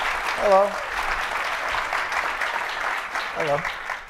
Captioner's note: applause